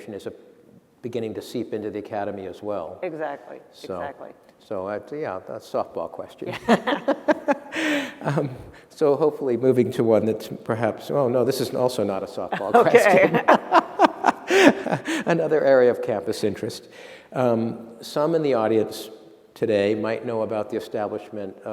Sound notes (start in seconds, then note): 6.5 laughter; 12.5 laughter